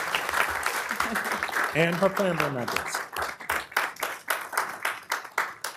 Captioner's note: applause